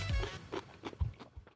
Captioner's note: crunching noises